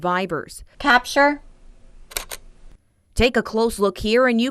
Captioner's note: camera shutter clicking